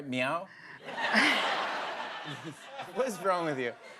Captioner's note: laughter